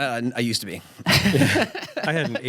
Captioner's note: chuckles